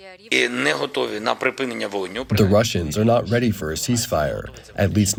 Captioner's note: through translator